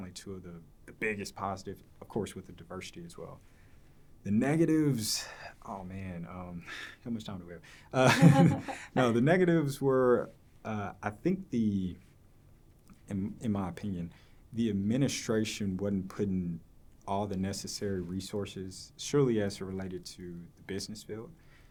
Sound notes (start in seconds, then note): 8.0 both laughing